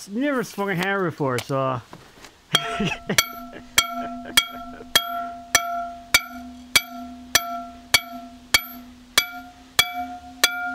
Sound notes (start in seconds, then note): 5.6 hammer clanging